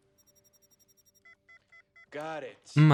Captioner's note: beeping